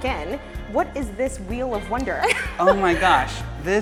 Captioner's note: laughs